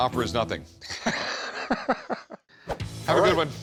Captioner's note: laughs